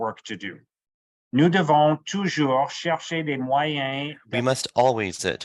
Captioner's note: speaking French